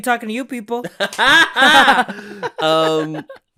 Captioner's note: laughs